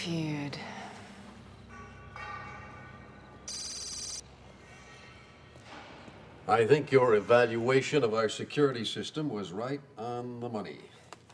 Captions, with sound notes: - Feud. (dramatic music) (computer beeps) - I think your evaluation of our security system was right on the money.